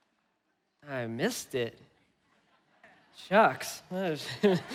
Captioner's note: laughing